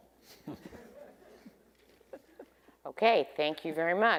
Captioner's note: attendees laughing